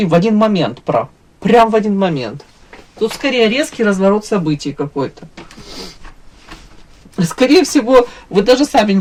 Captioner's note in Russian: фыркает